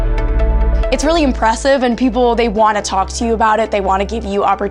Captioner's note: voiceover